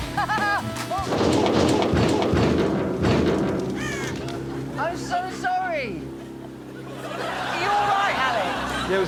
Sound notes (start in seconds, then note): 0.1 laughing; 1.0 loud clanging